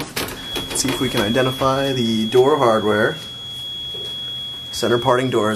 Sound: elevator door nudging tone

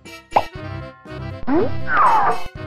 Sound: popping sound effect; various cartoon sound effects

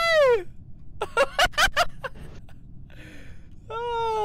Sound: laughter

